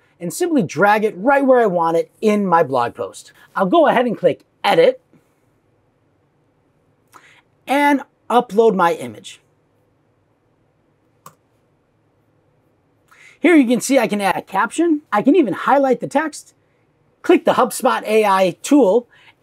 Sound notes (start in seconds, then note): 11.2 mouse clicks